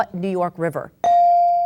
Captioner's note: bell dings